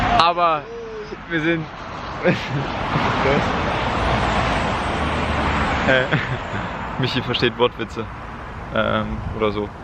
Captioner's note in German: lacht